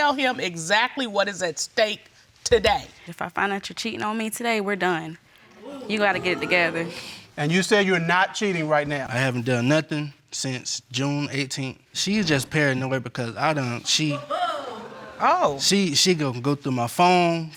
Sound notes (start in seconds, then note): 5.5 crowd booing; 14.1 woman chuckles